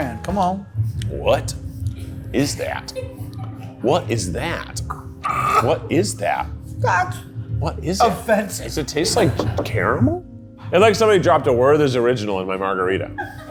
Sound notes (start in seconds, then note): 5.0 gags